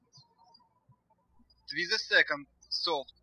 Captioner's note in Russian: птички щебечут